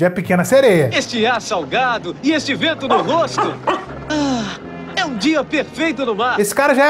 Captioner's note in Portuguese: suspirando